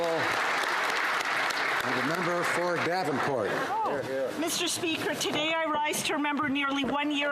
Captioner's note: applause